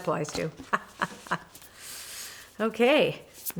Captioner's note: laughs